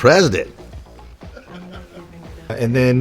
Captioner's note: interviewer chuckles